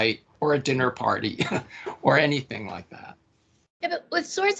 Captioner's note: laughing